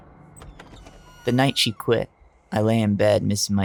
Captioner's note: door opening